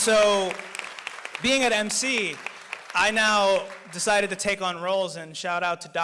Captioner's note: applause